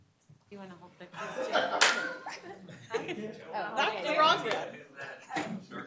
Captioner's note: applause